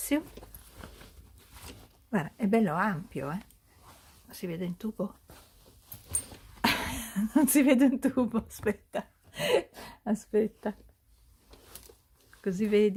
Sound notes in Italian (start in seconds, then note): 6.6 risate